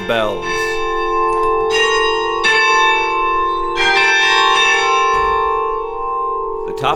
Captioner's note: church bells ringing very close